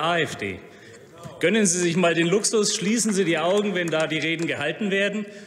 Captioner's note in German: Beifall bei Abgeordneten der SPD und der CDU/CSU – Zuruf von der SPD: Genau!